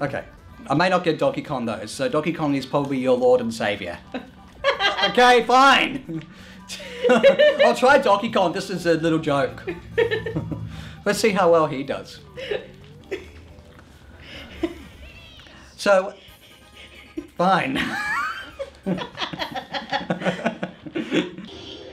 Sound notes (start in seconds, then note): 4.0 laughs; 12.2 laughs quietly; 13.5 laugh